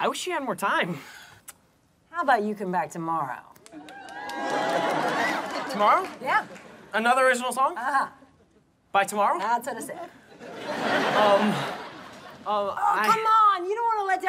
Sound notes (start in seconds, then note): 3.7 cheers